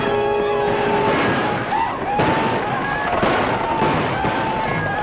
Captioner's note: yelling